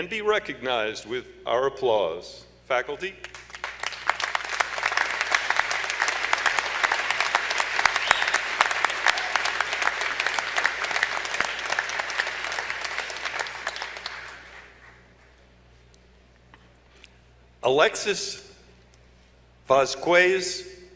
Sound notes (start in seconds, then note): 3.2 applause